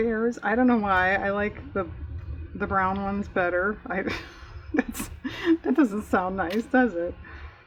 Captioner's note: laughs